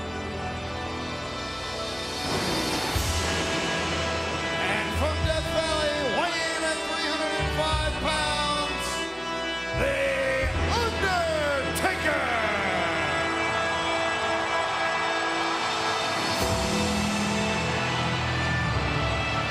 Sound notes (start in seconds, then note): 2.7 dramatic music; 12.8 audience cheering; 16.5 dramatic music